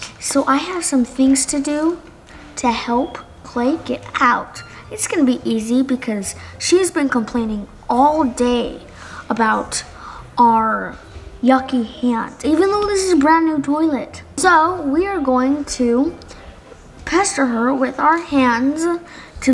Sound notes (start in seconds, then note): none